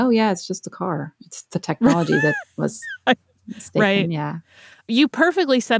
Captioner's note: laughs